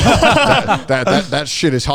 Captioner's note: all laughing